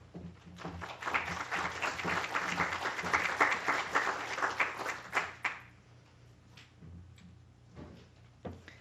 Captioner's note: applause